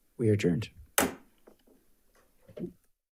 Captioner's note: gavel bangs